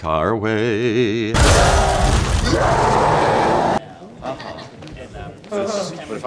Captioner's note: broken metal and growls